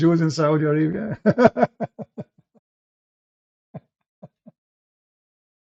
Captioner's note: Ketawa